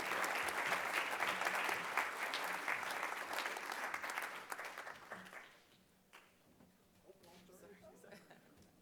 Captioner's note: applause